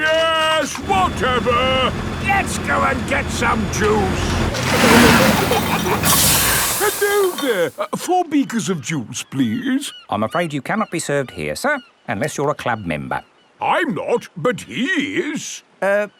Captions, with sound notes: Yes, whatever, let's go and get some juice! (PEPPA AND GEORGE GIGGLING) (AIR HISSES) Hello there! Four beakers of juice, please. I'm afraid you cannot be served here sir, unless you are a club member. I'm not, but he is!